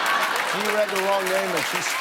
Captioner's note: laughter